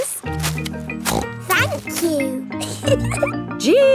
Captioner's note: snorts; giggles